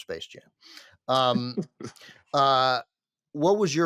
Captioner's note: chuckles